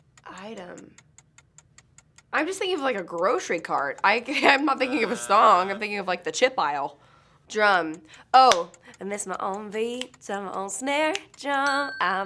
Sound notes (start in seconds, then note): 4.8 buzzer